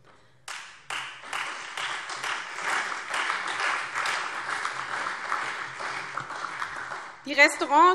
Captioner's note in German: Beifall SPD und Freie Demokraten